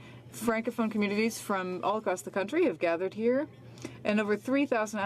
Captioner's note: speaking French